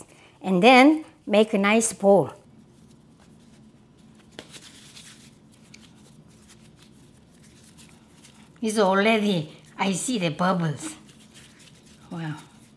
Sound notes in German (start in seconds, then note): none